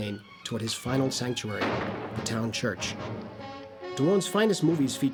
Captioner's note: gunshot